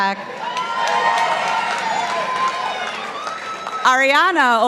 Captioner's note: participants applauding